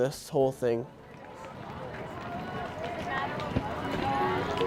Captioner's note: people talking